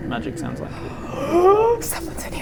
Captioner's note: gasp